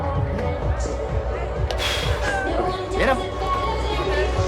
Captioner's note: exhales